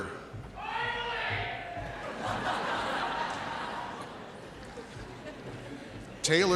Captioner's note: audience laughing